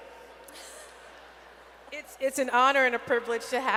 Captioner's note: laughter